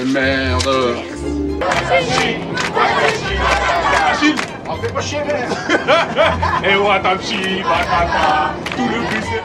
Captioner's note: clapping sound